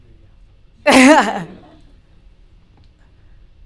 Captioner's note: laughter